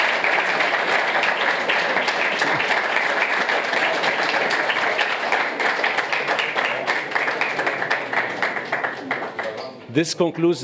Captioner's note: applause